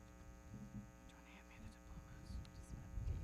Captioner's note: whispering